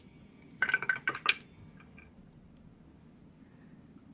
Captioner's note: dice rattling